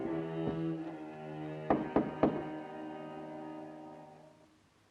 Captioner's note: door knocks